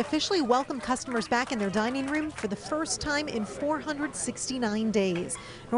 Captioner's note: applause